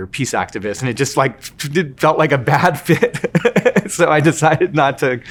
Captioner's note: laughing